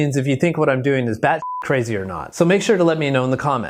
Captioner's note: beep